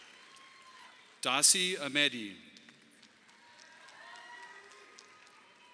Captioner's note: audience applauding; audience applauding